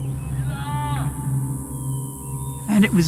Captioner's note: yelling